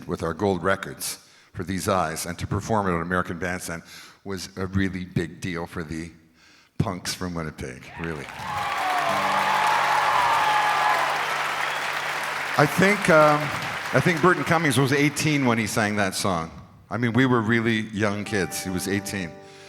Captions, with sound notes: with our gold records for These Eyes and to perform it on American Bandstand was a really big deal for the punks from Winnipeg really. [crowd cheers] I think Burton Cummings was 18 when he sang that song. I mean we were really young kids. He was 18.